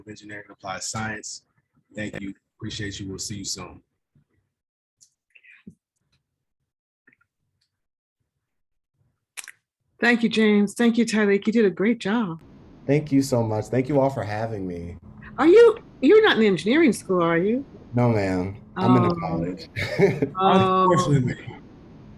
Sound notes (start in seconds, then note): 19.6 laugh